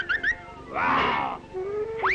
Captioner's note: growls; bright trumpeting